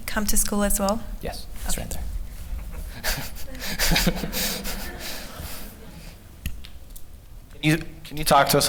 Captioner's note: laughter